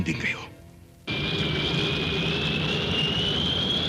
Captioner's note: airplane ascending